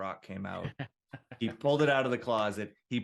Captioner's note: laughs